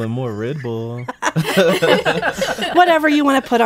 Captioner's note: laughing